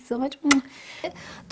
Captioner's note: blows kiss